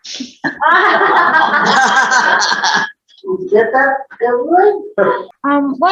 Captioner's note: everyone is laughing